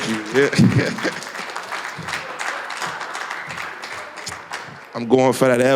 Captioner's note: applause